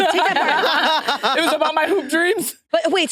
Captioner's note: participants laughing